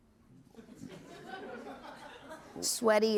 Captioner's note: laughter